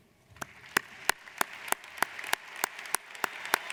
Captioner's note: applauding